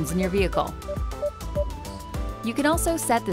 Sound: PDW beeping

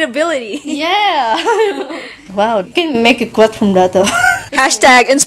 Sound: giggles; wheeze laughs

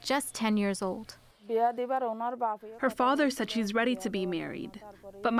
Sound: through translator

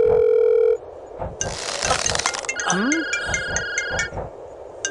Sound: phones ringing

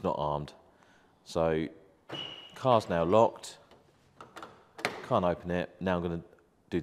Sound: beep

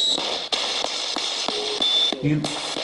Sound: random voice murmuring

